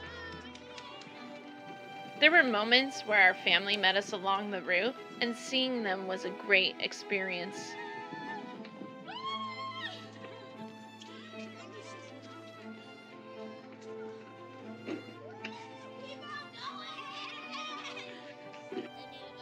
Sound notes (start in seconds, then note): 9.0 cheers in excitement; 15.2 cheers continues